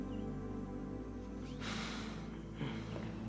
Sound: exhales

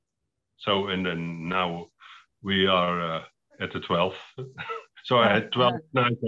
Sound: laughs

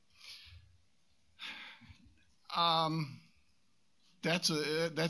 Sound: sighs

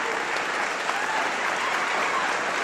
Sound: whooping

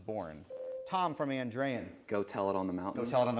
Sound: ding

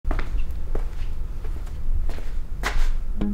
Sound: footsteps

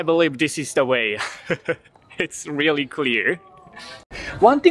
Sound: chuckles

